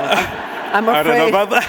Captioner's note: audience laughing